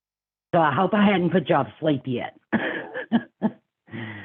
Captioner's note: laughing